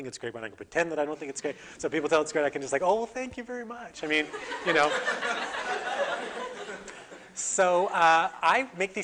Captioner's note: audience: Laughter